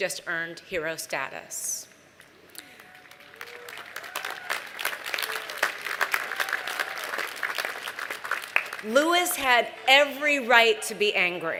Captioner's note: applause